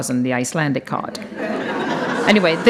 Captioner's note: audience laughs